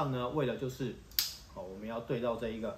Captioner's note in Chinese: 喀！